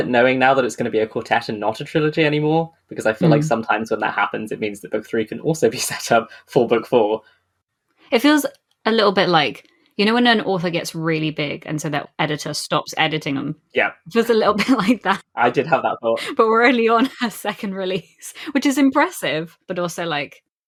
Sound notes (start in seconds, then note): 15.4 laughing